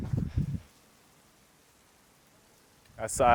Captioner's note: sound of rain